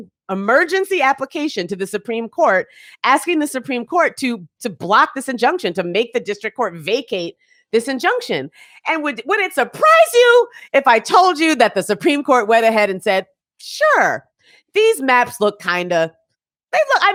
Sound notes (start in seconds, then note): none